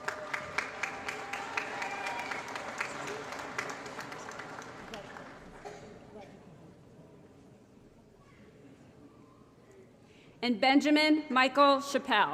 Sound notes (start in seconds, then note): 0.0 applause; 5.6 crowd Noise